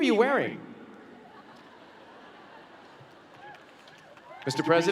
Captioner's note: laughter